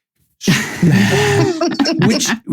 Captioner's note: laughing